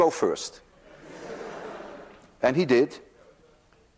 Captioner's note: laughter